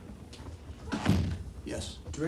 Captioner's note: door thudding